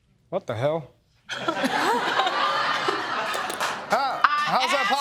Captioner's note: laughter